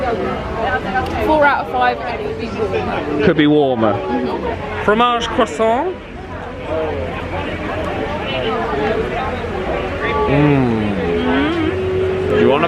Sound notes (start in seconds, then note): 5.3 speaking in foreign language